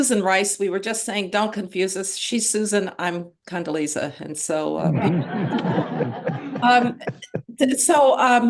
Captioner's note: laughter